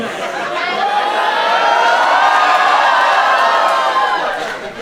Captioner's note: Bangalore erupts in anger